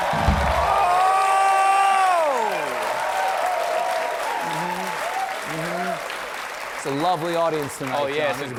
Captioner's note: cheers and applause